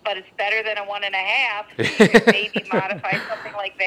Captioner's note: laughs